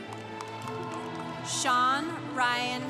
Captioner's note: congregation cheering